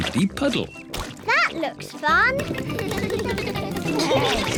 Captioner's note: all giggle